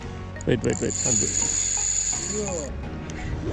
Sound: reel screaming

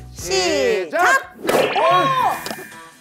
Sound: popping sound from the start

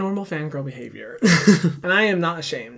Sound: laughing

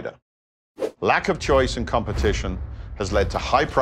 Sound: graphics whooshing; logos boom

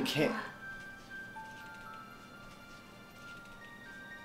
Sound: whispers

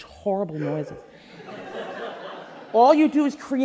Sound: audience laughing

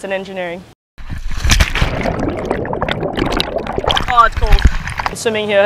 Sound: water gurgles

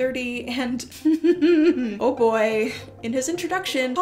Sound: stifled laugh of the enraged

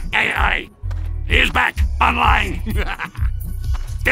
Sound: muahahaha

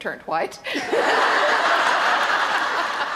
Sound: laughter

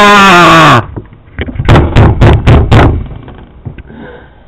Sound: screams in anguish; repeatedly slams desk

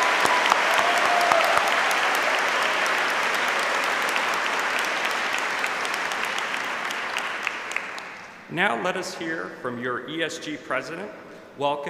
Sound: cheers and applause

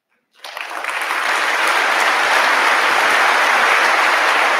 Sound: audience applauding

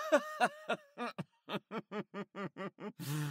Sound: laughs

